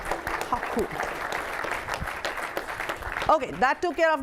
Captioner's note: applause